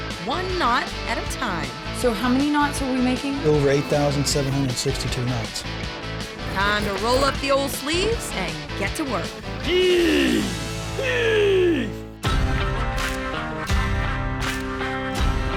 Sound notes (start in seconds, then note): 9.5 grunting